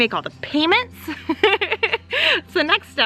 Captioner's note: laughs